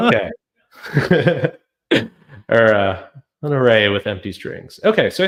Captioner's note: laughs